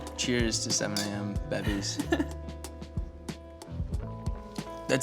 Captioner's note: laughter